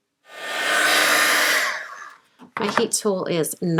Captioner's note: heat tool whirs